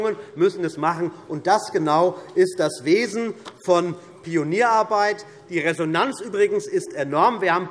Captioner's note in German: none